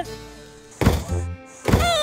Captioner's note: bang